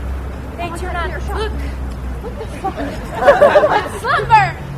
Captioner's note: laughter